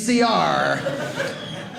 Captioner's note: audience laughing